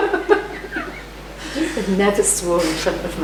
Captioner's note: laughs